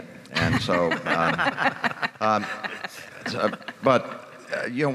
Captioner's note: laughter